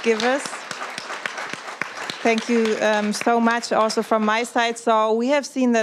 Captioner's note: applause